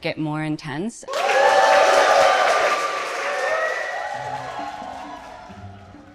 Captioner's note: audience hooting and cheering